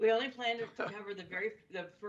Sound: laughter

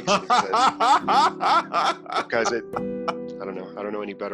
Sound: laughter

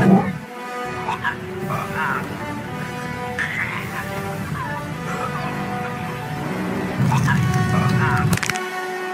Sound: chokes

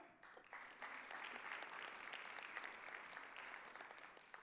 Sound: audience applauding

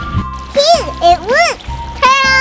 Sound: splashing

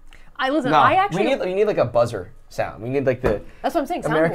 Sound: hand thuds

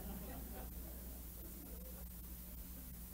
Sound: laughter

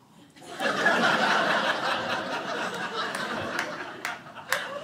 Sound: audience laughing

